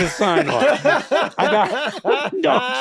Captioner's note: all laughing loudly